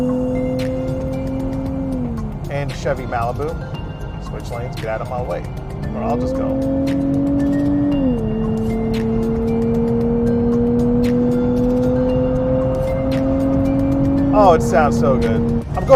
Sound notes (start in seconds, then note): 7.0 car engine revs; 7.0 gentle music